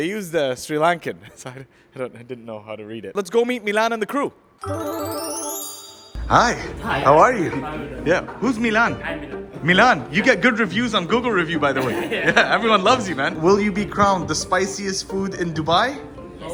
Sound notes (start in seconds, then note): 4.6 jaunty music; 11.8 chuckles